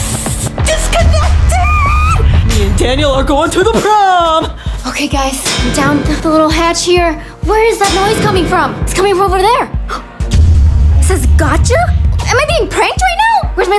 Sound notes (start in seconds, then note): 7.6 banging; 9.9 gasps